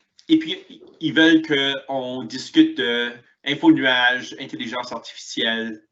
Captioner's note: speaks in foreign language